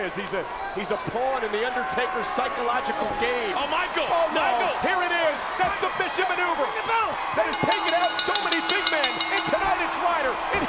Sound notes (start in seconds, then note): 7.5 bell ringing